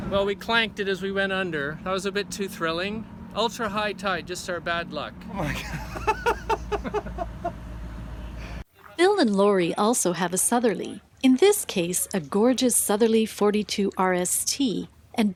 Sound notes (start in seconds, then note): 5.3 laughs